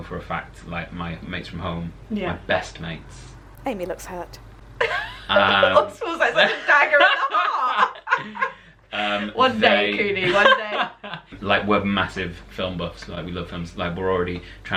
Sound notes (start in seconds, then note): 6.2 laughter